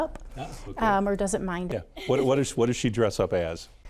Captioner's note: laughs